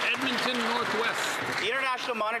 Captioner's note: cheering and Applause